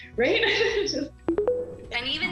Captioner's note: tones